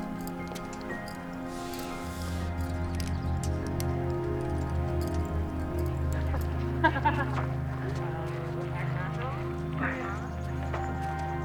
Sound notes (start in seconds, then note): 5.9 students laugh